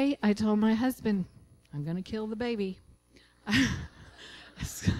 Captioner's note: laughter